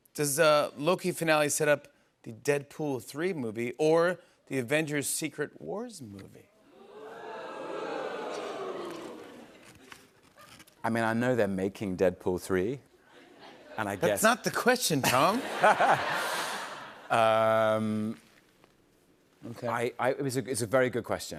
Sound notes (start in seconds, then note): 6.7 audience oohs; 15.0 laughter